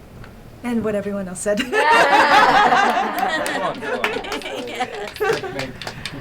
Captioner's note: laughs and claps